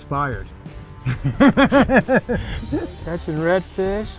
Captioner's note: laughing